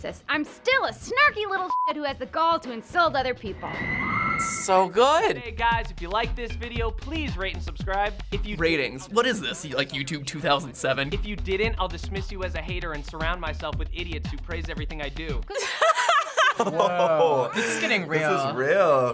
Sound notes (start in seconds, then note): 15.5 laughs loudly; 15.5 laughs